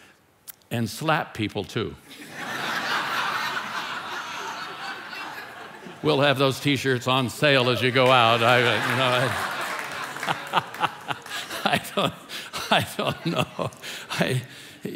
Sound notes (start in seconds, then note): 2.3 congregation laughing; 7.6 congregation applauding; 10.4 laughing